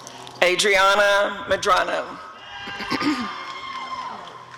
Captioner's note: applause and cheering